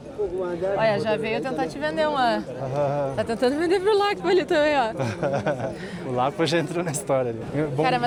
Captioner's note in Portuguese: risadas